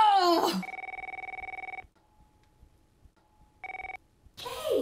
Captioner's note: mother yells; phone ringing